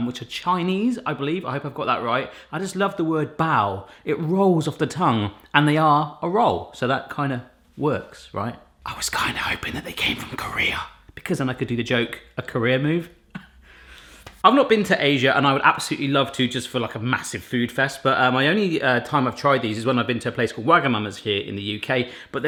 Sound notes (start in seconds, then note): 8.9 whispering